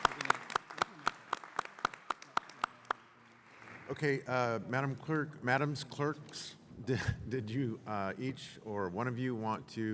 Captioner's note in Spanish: Aplausos